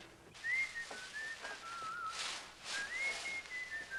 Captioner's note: whistling